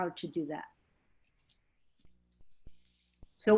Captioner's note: silence